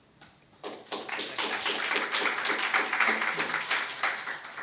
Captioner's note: audience applauds